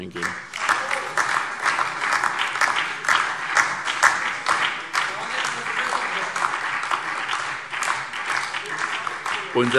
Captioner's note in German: Beifall